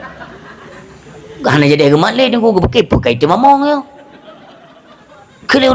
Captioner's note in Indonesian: tertawa